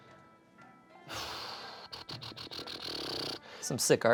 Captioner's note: exhales